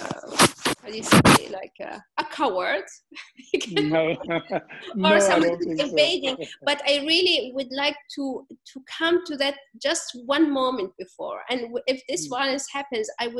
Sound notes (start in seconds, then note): 3.4 laughs